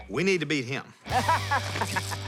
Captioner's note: laughs